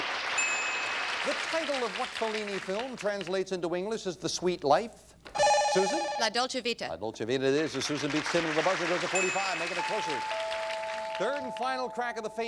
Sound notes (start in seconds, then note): 0.0 audience applauding; 5.3 bell rings